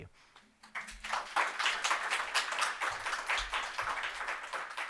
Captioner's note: applause